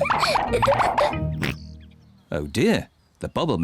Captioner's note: oinks